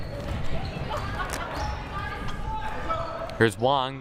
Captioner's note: crowd murmuring